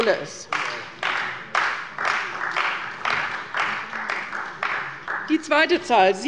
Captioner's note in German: Beifall bei Abgeordneten der CDU